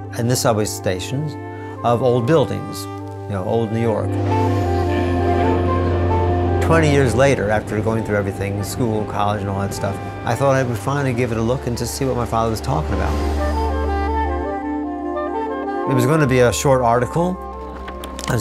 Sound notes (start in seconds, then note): 4.9 train running